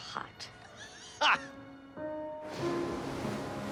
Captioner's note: laughing